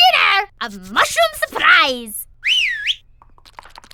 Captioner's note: whistle call